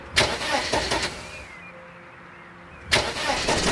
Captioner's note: engine starts